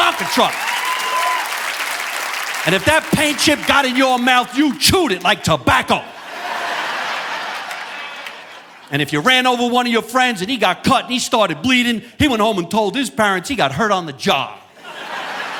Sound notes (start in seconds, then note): 5.9 audience laughing